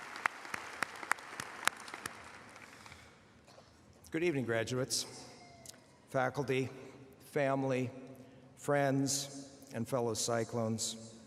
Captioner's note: applause